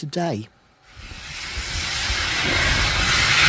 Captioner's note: sound of a steam train setting off